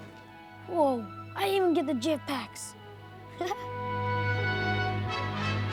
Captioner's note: giggles